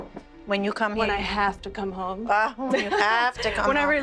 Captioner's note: laughs